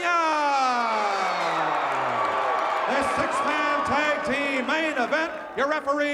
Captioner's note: applause